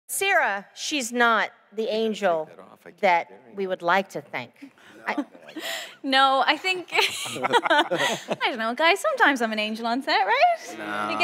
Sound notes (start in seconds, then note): 6.9 laughs